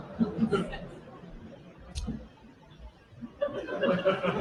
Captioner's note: applause, laughter